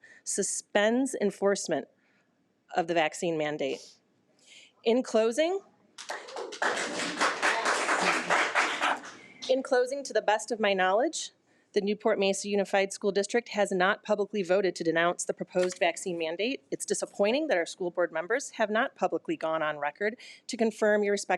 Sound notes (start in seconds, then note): 6.0 audience applause